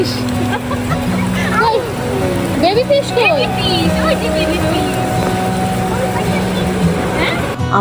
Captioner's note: applause